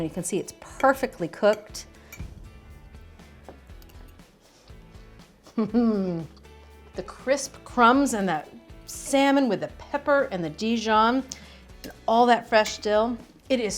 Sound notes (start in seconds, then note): 2.7 bright music; 5.9 laughs